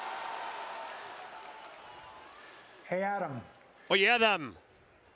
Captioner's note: applause